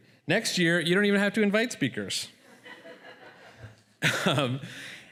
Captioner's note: laughter